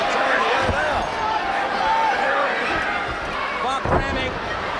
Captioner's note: crowd chatter